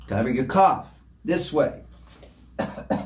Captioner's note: coughs